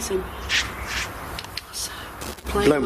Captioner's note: scratching